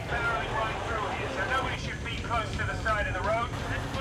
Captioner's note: indistinct chatter; man on bullhorn